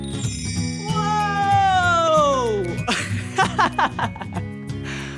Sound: laughing

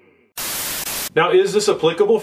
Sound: static

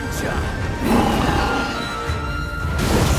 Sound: roars

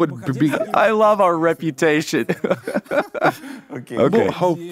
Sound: both laugh

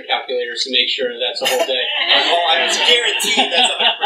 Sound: laughter

